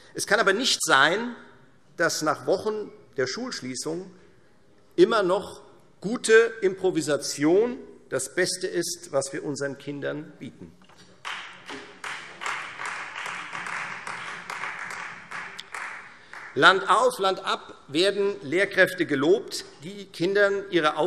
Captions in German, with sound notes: Es kann aber nicht sein, dass nach Wochen der Schulschließung gute Improvisation immer noch das Beste ist, was wir unseren Kindern bieten. [Beifall Freie Demokraten] Landauf, landab werden Lehrkräfte gelobt, die den Kindern ihre Aufgaben